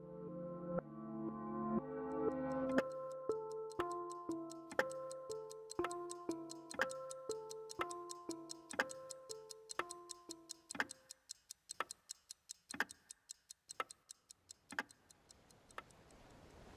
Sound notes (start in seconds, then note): 1.9 clock ticking; 8.9 clock continues ticking; 14.9 ticking fades